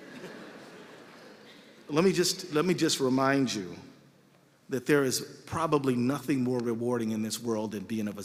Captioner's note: laughter